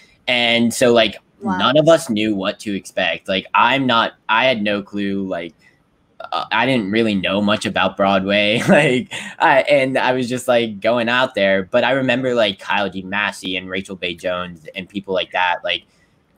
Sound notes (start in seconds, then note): 8.4 chuckles